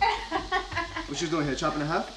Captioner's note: laughing